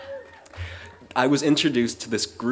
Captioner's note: cheering